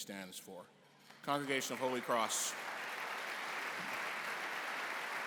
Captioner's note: applause